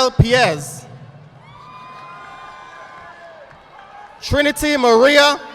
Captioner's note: audience applauding